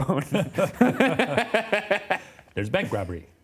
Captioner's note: laugh